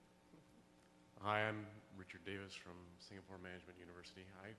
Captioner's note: voiceover